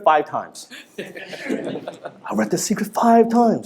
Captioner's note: laughter